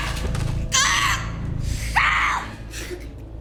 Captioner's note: Alejandra screams